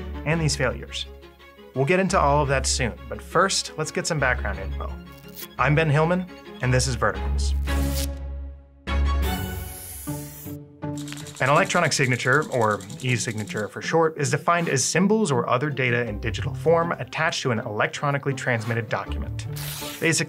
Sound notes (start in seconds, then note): 8.6 pen squeaking; 8.6 quirky music